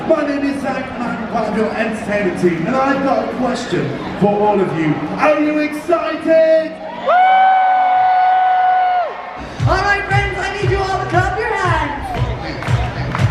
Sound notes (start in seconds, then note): 6.6 guests cheering; 9.4 upbeat music